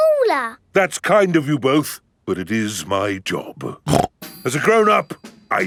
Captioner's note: snorts